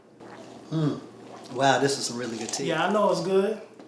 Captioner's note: pouring tea sound